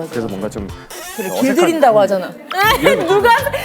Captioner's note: creak